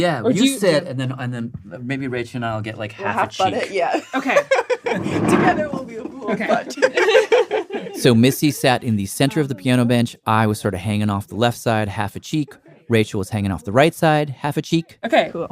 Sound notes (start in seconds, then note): 7.1 laughs